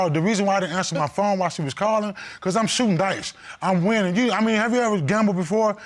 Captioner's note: none